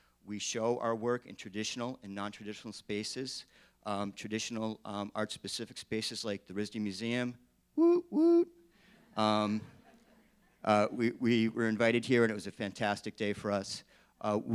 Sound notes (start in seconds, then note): 9.6 laughing